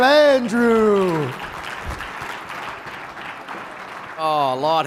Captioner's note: audience applauding